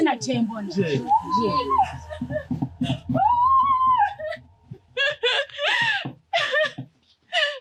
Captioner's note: mourning